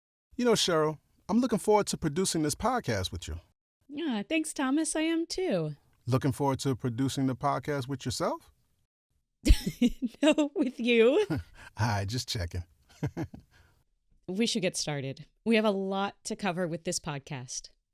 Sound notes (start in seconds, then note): 11.2 laughs; 12.9 chuckles